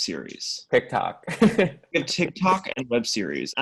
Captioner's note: laughs